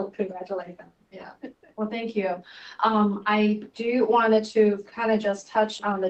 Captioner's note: laughter